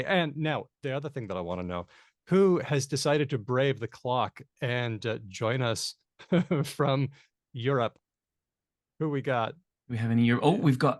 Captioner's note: laughs